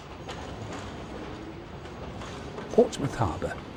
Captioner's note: train passes